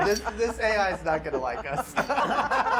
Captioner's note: laughing